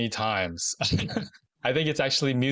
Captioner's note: laughs